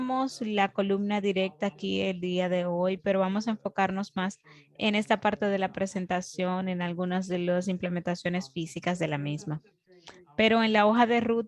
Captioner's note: foreign language spoken, 0:20:11 to 0:20:31